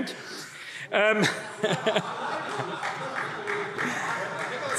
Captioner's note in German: Heiterkeit und Zurufe